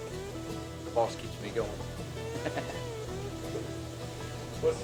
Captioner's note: laughs